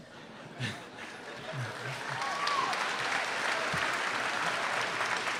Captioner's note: applause